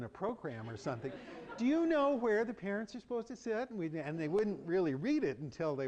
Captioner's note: laughter